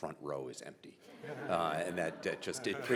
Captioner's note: audience and panel laughing